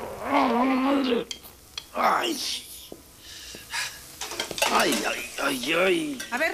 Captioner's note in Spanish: Quejido